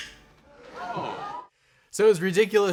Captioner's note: bird squawking; audience gasping